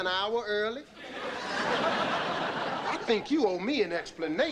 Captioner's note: audience laughing